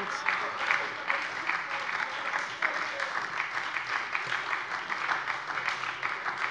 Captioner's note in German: Beifall bei der SPD - Zurufe von der CDU